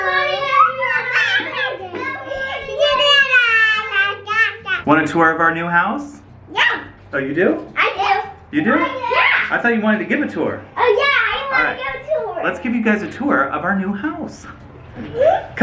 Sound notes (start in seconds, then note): 4.0 children joyful cheering